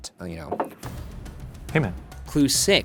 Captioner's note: mug clinks